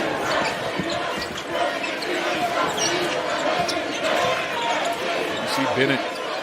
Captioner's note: cheering